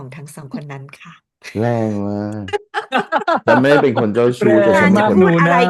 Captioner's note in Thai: เสียงหัวเราะ